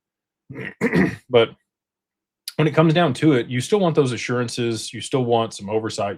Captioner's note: clears throat